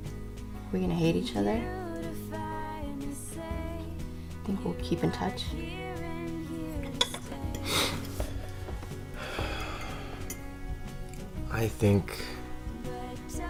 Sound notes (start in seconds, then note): 6.1 exhales sharply; 7.5 sniffles